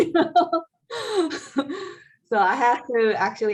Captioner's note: laughing